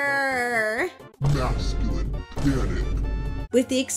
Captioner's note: vine booms